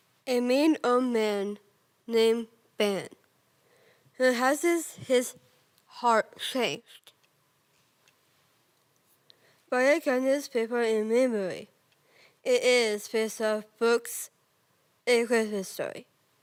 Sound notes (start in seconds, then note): 7.7 rustling